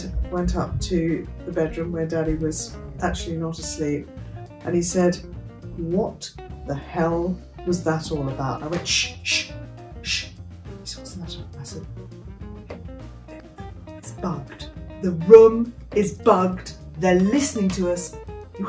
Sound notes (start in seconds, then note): 12.3 whispers